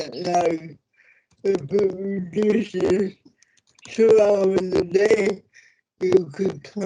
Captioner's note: audio distorts